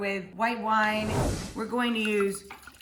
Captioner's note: air whooshing